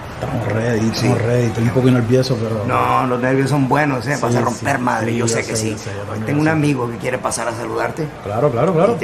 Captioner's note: speaking spanish